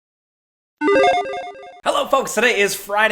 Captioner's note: logo chiming